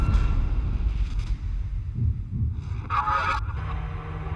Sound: heartbeat

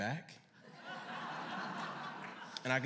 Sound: laughter

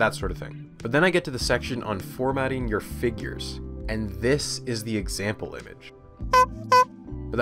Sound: honk honk

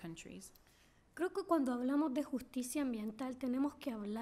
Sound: speaking spanish

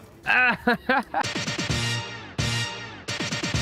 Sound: groans

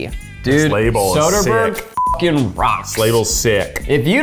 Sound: beep

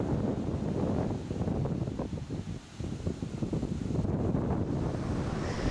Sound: strong howling wind

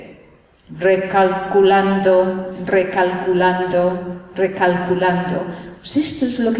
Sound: imitates gps

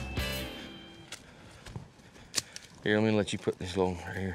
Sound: footsteps

